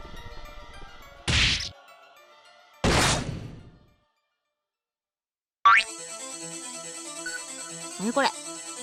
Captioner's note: urk